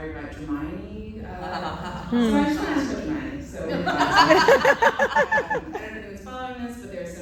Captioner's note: laughter